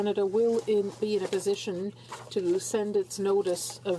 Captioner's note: speaking in french